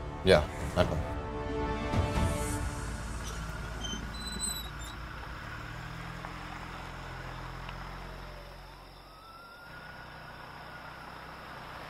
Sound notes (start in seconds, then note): 3.8 Car pulling up; 8.0 Siren wailing